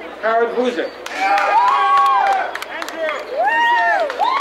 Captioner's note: crowd cheering